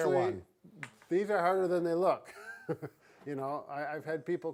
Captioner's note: laughs